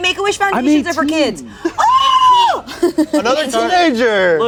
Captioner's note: screaming